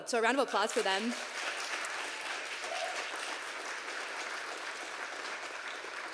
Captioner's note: audience applauding and cheering